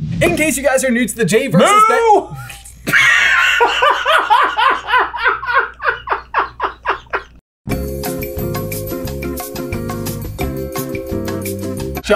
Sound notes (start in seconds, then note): 2.8 dies laughing; 7.7 hold music